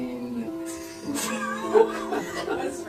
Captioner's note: laughter